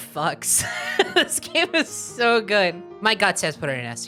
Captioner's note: laughing